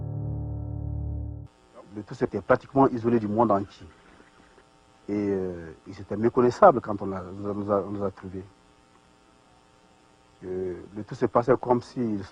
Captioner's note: speaking french